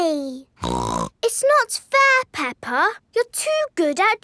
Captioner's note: snorts